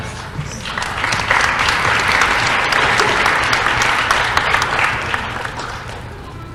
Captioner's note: applause